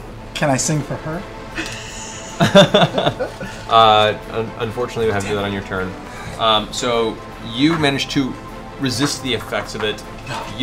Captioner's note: laughs